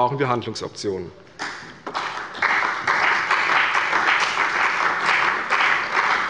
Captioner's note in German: Beifall bei der CDU und dem BÜNDNIS 90/DIE GRÜNEN